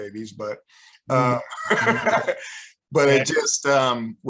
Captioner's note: laughs